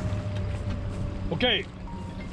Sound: boat engine idling

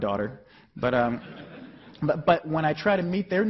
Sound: chuckling

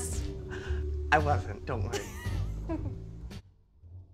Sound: snickers

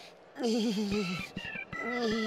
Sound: whimpering

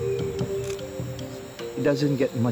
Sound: camera shutter clicks

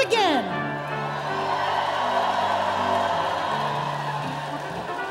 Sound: audience cheering

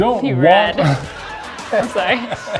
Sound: laughing

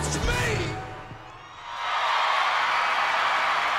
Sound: applause

